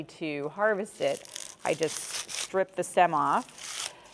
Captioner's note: garlic rustling